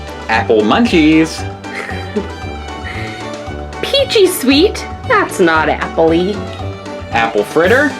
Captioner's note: laughs